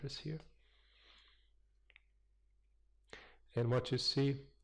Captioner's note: pause